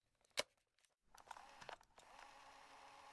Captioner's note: cassette tape player sounds